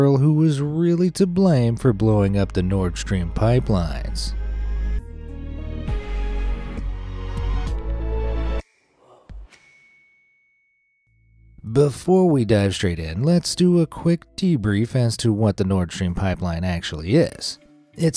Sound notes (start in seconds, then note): 5.5 dramatic music; 9.5 bell rings